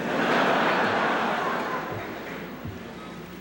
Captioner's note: laughter